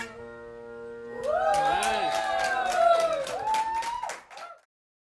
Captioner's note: applause, cheering